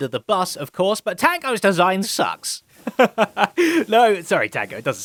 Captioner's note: laughs